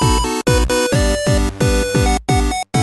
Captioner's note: jumps, background sound